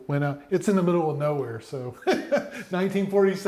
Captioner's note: chuckles